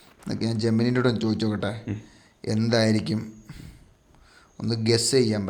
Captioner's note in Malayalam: തൊണ്ട ശരിയാക്കുന്നു